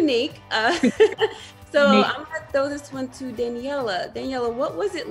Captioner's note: laugh